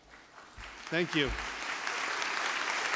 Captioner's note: audience applause